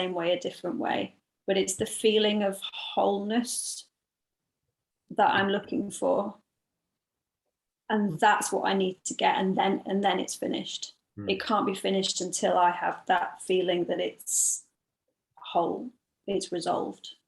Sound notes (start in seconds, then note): none